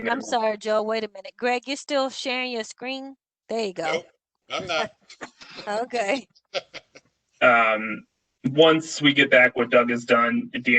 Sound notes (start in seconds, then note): 6.4 laughter